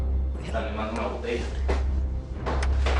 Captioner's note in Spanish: Habla entre dientes